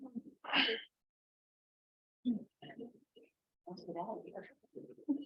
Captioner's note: people chattering distantly